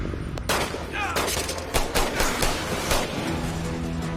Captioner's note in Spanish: Disparos